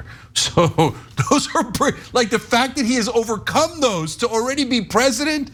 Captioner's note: laugh